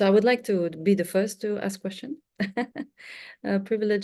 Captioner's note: chuckles